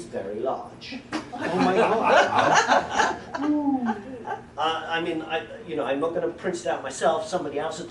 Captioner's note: sounds of disbelief